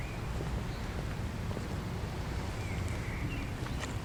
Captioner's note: birds Chirping